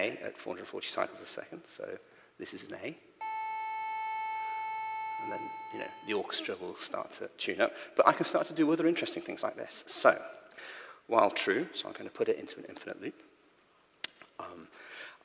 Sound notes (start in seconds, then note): 3.2 micro:bit plays a tone